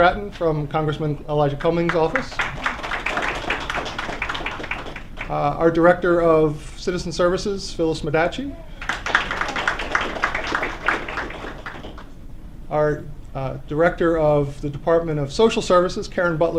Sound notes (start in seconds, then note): 1.8 applause; 8.7 applause